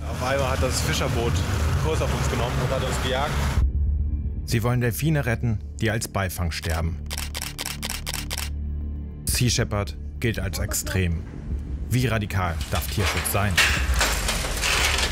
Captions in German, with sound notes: Sie wollen Delphine retten, die als Beifang sterben. (Fotoklicken) Sea Shepherd gilt als extrem. Wie radikal darf Tierschutz sein? (Metallische Laute)